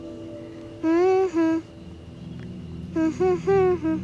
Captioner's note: humming